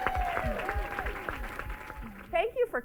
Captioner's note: cheers, applause